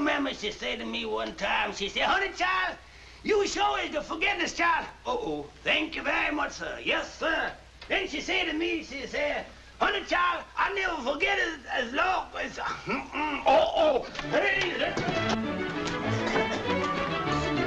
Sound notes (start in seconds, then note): 13.0 stutters; 14.7 whimsical music